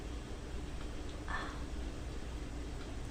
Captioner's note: sigh